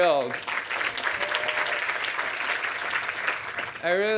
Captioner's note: audience applauding